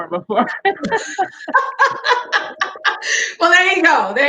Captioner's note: laughing